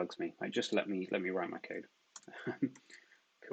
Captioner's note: murmurs; laughs